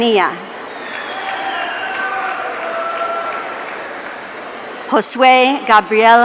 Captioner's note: audience cheering